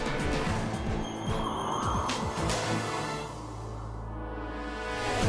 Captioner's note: wind whooshing; tense music